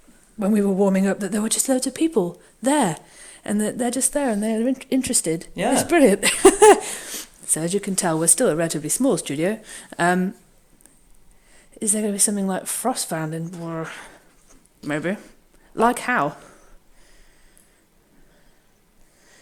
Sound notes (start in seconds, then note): 6.2 laughs